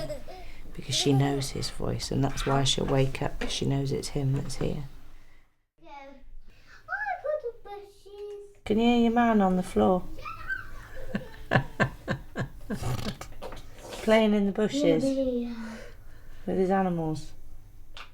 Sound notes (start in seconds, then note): 10.2 laughs